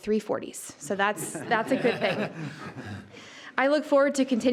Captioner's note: group laughs